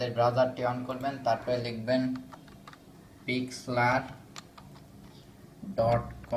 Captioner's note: typing